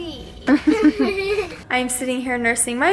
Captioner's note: chuckling